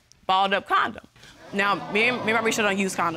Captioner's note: audience gasps